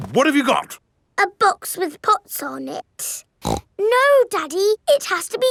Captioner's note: snorts